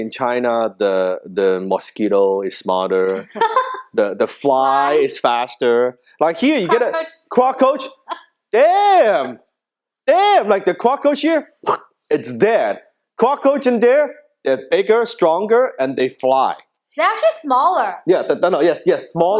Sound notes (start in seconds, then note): 3.1 laughing; 11.6 imitating splat